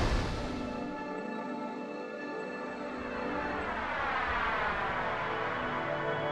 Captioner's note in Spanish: Aplausos